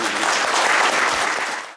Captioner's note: clapping